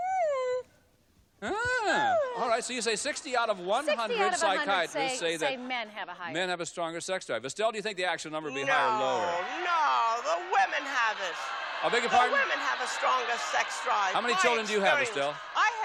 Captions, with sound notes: (laughs) -All right, so you say 60 out of 100 psychiatrists say-- -men have a higher -Men have a stronger sex drive. Estelle, do you think the actual number will be higher or lower? -No. No! The women have it. (audience yelling) -I beg your pardon? -The women have a stronger sex drive. My experience. -How many children do